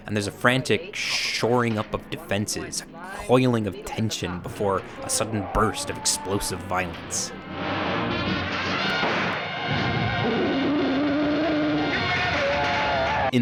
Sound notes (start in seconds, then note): 7.5 dramatic music; 7.6 gun shooting; 9.6 monster growling